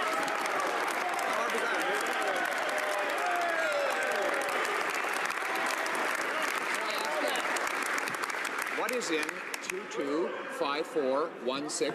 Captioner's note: some Applause